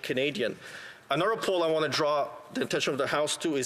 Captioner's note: speaking alternate language